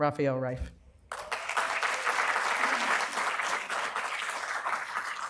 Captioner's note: applause